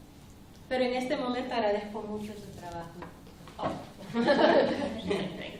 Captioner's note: speaking spanish